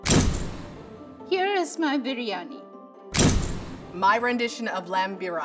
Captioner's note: camera shutter clicks; camera shutter clicks